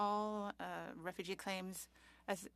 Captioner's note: speaking French